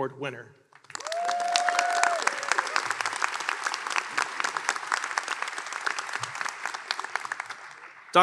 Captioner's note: applause